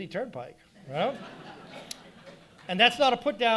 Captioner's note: audience laughing